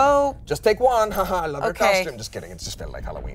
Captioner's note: laughs